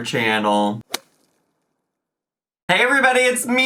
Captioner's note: logo thuds